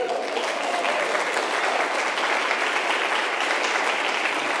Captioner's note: crowd clapping